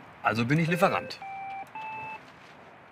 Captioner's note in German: Pieptöne